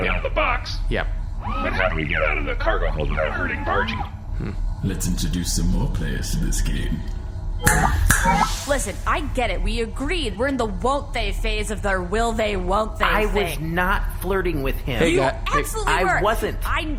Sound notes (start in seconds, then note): 4.4 echoing; 8.0 snaps fingers twice